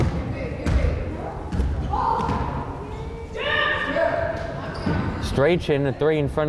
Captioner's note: crowd chattering and yelling